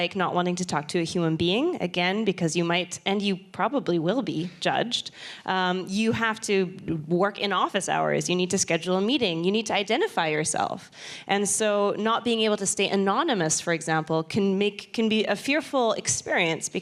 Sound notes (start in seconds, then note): none